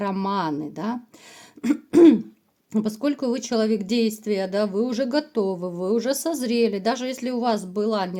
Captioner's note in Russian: откашливается